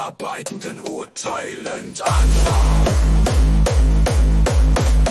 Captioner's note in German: mmm mmm mmmmmmmm